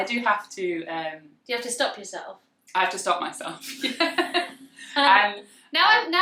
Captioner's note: laughs